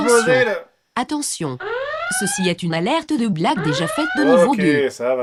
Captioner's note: voiceover